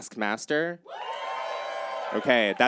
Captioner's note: audience cheers